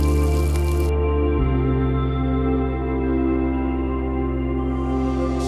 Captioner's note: fry pan sizzle ends